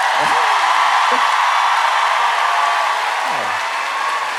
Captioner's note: audience cheering